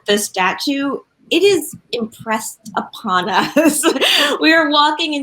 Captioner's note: laughs